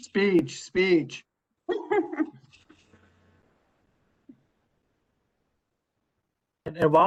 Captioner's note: laughter